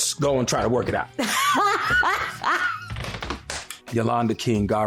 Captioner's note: laughter